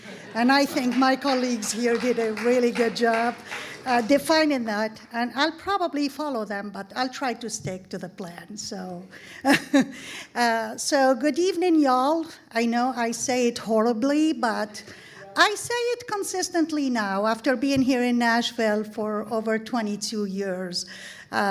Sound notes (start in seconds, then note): 0.0 audience laughing and applauding; 9.6 laughing